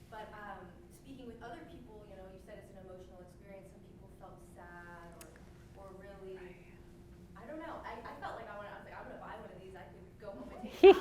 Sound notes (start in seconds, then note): 8.4 speaks faintly; 10.7 laughing drowns out speech